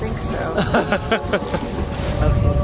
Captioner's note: laughter